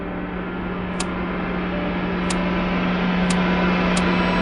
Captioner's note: intense music; clock ticks